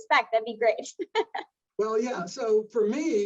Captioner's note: laughs